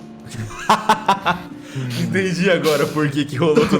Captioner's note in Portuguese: risadas